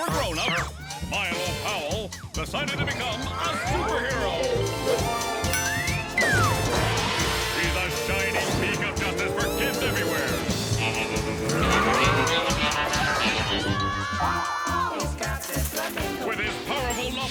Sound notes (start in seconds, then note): 3.9 upbeat music; 11.6 kids yelling for help